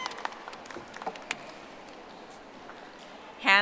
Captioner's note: audience applauding